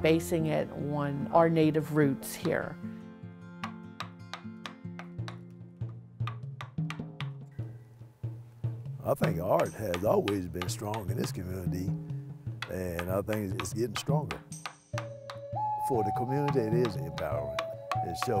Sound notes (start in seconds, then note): 3.6 hammer tapping; 4.1 gentle guitar music; 6.1 drum thumping; 6.1 hammer tapping